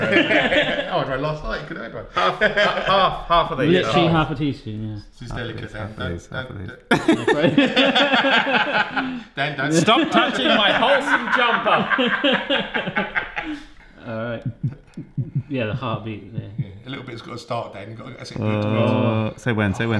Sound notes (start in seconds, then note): 0.0 all laugh; 6.9 all laugh; 12.2 laugh; 14.4 makes the noise of a heart beating